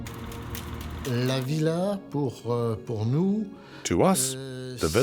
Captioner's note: speaking French